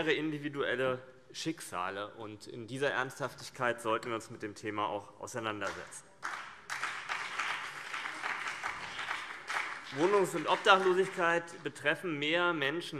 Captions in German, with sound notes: individuelle Schicksale, und in dieser Ernsthaftigkeit sollten wir uns mit dem Thema auch auseinandersetzen. [Beifall BÜNDNIS 90/DIE GRÜNEN und vereinzelt CDU] Wohnungs- und Obdachlosigkeit betreffen mehr Menschen,